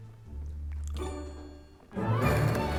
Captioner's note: munches